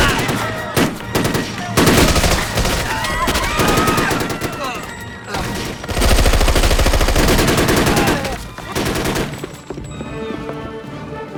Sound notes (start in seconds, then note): 4.1 grunts